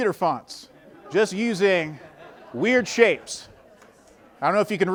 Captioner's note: audience laughing